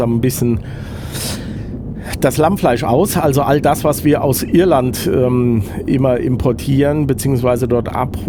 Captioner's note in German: schnauben